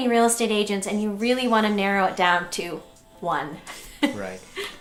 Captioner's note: laughs